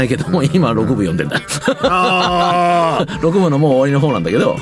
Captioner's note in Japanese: 笑い